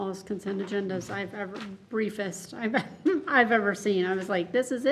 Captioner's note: chuckles